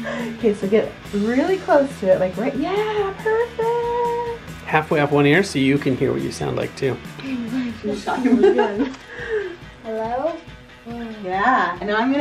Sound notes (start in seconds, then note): 7.2 laughs